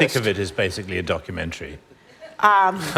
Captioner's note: laughter